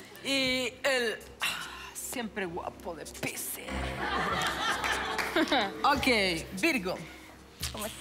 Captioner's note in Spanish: Risas